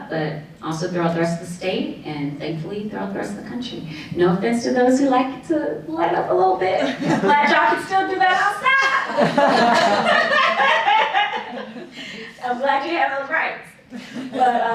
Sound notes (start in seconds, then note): 8.8 laughter; 14.0 laughing